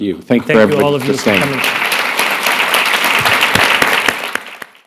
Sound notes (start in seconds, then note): 2.2 applause